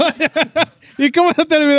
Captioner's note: all Laughing